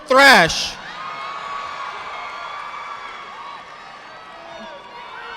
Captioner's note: audience applauding